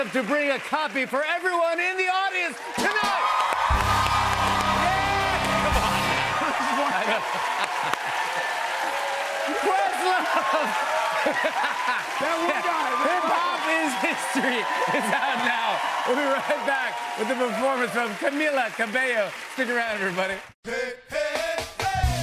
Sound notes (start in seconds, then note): 3.3 cheers and applause; 6.4 laughter; 7.9 cheers and applause; 9.9 laughing